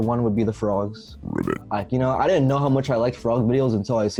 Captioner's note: frog croaks